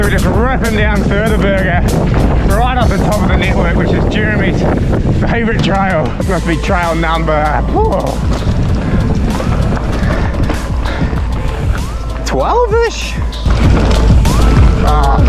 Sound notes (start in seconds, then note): 8.5 groans; 13.2 bike clatters